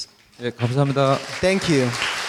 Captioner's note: speaking in foreign language